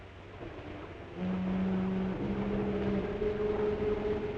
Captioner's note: foghorn